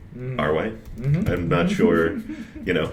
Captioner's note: laughs